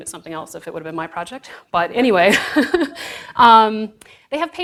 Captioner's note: audience laughs